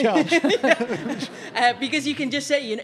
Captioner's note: audience laughing